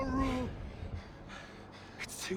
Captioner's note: breathing heavily